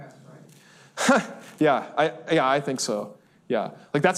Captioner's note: laughs